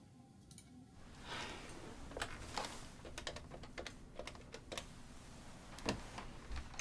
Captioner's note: material rustling; keypad tapping